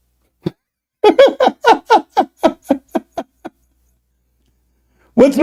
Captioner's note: Ketawa